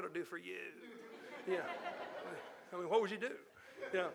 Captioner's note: audience laughing